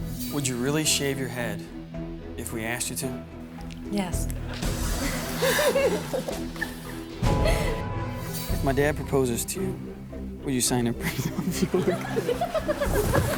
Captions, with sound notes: - Would you really shave your head if we asked you to? - Yes. (audience laughs) - If my dad proposes to you, would you sign a prenup. (laughs)